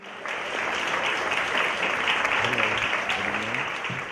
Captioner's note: applause